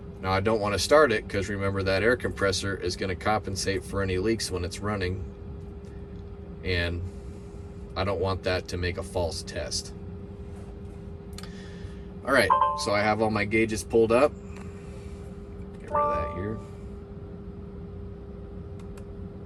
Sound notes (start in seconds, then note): 12.4 tractor beeps; 15.8 tractor beeps